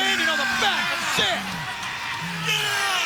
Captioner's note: crowd cheering